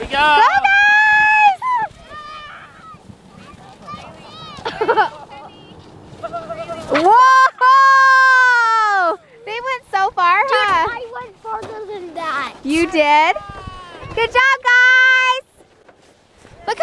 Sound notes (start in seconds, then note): 2.6 cheering